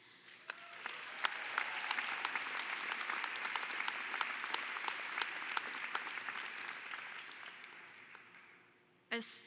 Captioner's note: applause